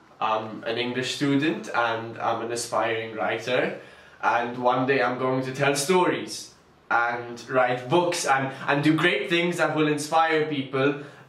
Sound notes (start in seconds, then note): none